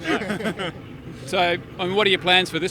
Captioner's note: continued laughter